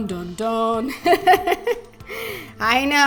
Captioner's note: laughing